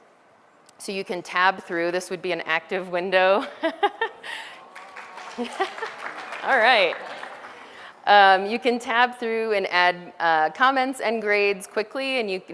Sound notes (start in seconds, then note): 4.2 background audience applause sounds; 6.6 laughter